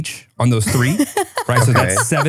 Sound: laughs

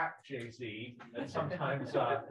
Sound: people laughing

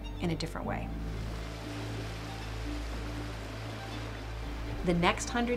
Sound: rushing water

